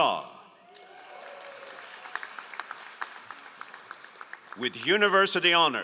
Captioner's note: all applauding